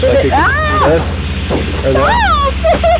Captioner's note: screams; laughs